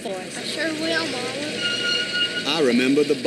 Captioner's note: tires squeal